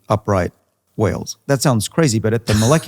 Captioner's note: laughing